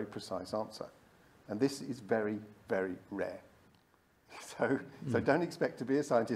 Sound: chuckles

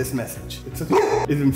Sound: barking

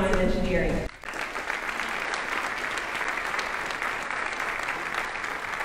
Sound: audience applauding

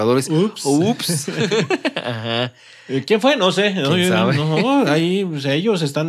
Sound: laughs

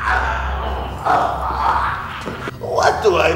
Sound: groan

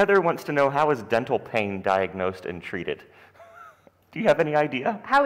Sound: chuckles

